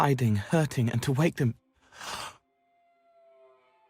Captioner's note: gasp